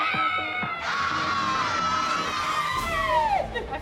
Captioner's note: screaming excitedly